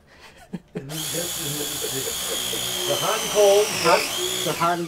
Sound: electric wrench whirring

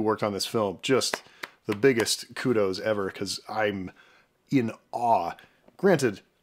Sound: claps

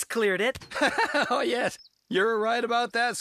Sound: laughing

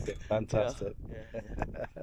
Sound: laughs

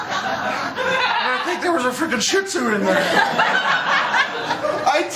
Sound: laughter

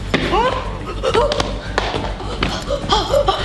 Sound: loud footsteps; pants

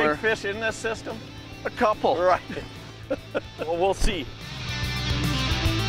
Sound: laughing

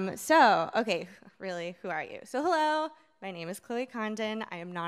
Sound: none

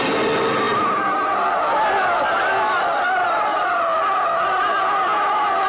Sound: crowd Chattering

